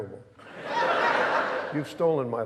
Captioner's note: audience laughing